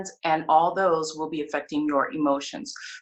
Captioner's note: none